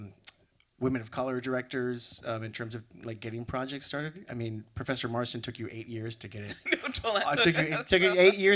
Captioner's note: laughs